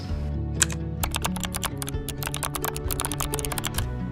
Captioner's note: keyboard clicking